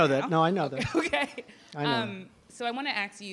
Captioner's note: laughs